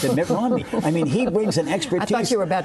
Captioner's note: laughter